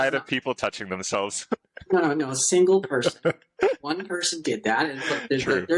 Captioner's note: laughter